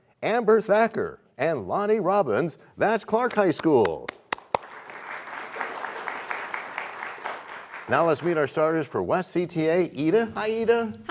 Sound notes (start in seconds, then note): 3.5 applause